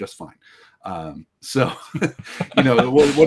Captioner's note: all laughing